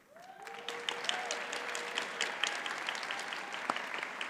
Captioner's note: audience applauds